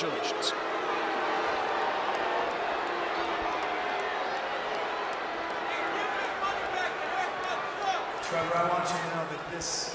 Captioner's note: applause